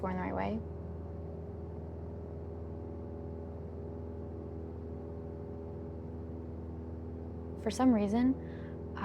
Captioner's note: airplane hums